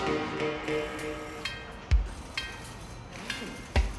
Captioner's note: machine shop noises